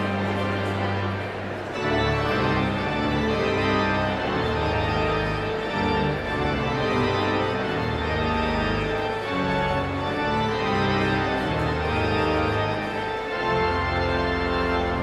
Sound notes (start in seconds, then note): 9.3 audience chatter continues; 9.3 pipe organ music continues